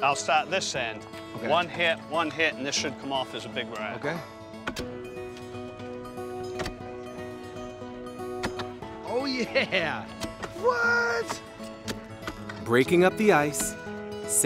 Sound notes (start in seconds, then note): 5.1 saws clacking